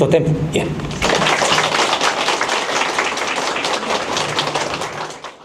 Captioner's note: audience Applaudes